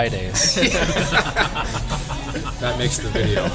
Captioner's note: laughter